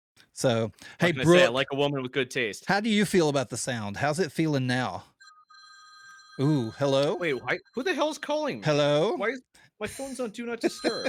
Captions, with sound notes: So, hey Brooke. How can I say it like a woman with good taste? How do you feel about the sound? How's it feeling now? (phone ringing) Ooh, hello? Wait, who the hell is calling? Hello? Why is, my phone's on Do Not Disturb.